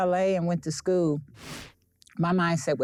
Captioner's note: air whooshing